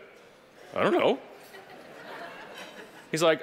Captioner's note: audience laughing